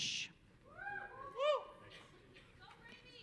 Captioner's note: audience cheering